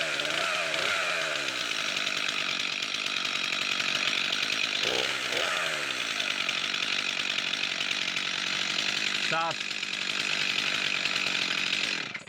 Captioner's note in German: Motorsägengeräusch